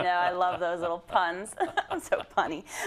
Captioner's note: laugh